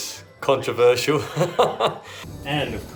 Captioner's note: laughs